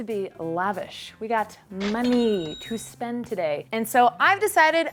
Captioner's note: cash register chimes